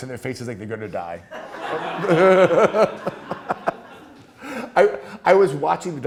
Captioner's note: class laughing